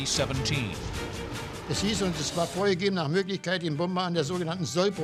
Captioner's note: speaking german